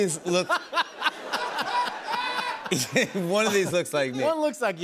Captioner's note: laughter